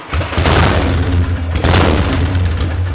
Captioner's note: motor revving up